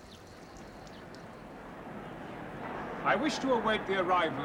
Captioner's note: hum of a crowd